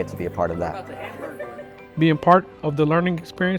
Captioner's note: people chattering